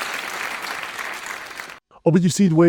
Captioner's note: applause